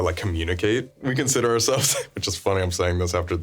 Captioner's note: laughing